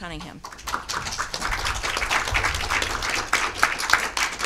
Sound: audience applauding

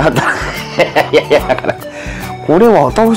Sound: laughs

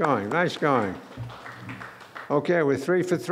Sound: clapping

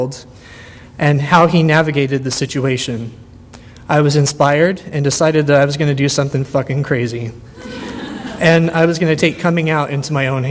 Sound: audience laughter

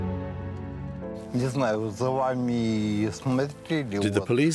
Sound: speaking German

